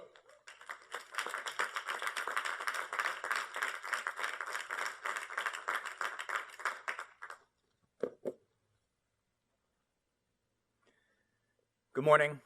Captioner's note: applause